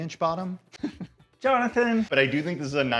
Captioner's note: laughs